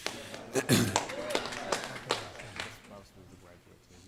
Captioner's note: audience clapping